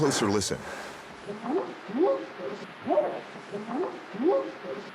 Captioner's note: whooping sound